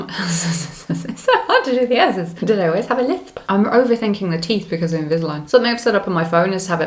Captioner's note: lithp